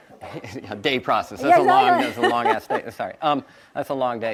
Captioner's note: chuckles